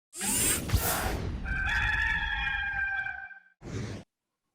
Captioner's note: cock crowing